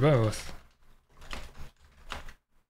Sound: typing

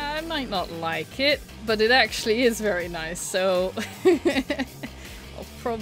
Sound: laughs

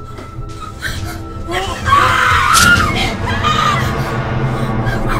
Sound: screaming

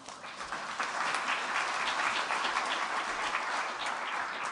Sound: applause

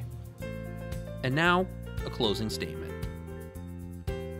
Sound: voiceover

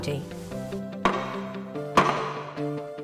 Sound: hammer beating; upbeat music

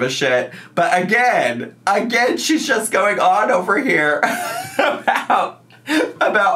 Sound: laughs

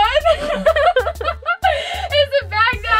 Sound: laughter

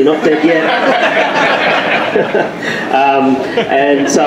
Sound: laughter

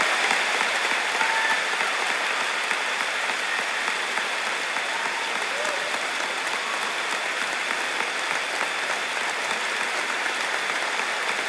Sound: applause

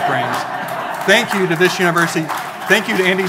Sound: audience laughing and applauding

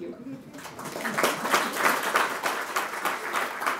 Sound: applause

